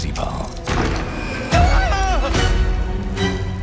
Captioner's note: shrieks